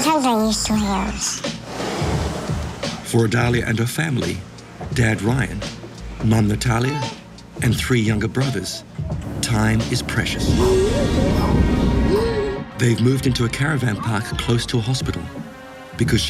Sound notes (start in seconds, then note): 10.6 sombre music; 11.5 pretend gun shooting